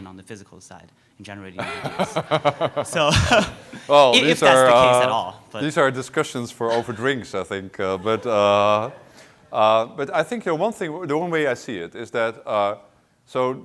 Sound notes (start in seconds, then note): 1.6 laughs; 3.2 laughter